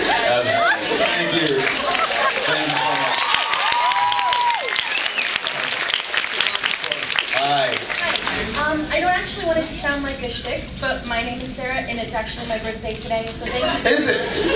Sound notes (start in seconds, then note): 3.4 cheers